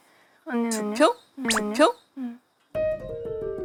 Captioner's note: surprised